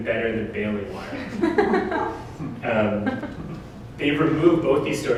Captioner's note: audience: Laughter